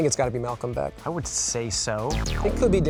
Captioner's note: buzzer sounding